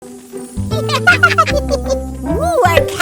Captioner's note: giggling